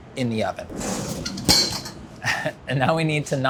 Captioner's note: oven door slams; bun thuds; laughs